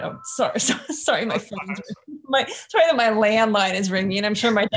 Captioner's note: chuckles